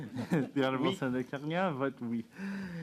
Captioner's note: speaking French